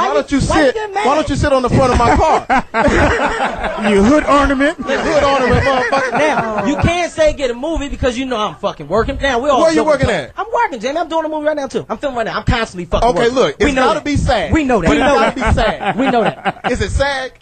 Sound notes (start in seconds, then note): 1.8 all laugh